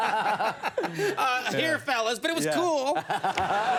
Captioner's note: laughing